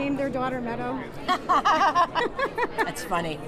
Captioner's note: both laughing